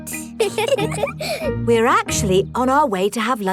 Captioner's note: both giggle